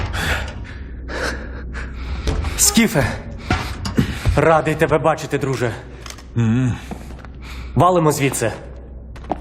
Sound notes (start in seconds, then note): 0.0 man panting; 2.5 speaking Ukrainian